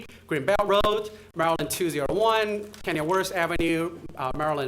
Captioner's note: audio crackling